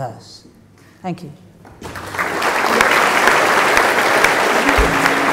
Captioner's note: applause